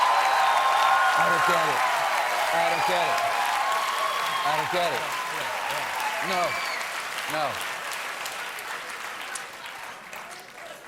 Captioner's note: cheers and applause